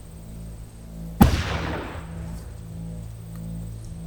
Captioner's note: gun banging